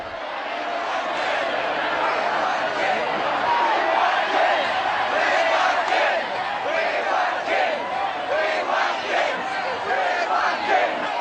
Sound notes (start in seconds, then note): 0.0 crowd chanting; 10.1 crowd noise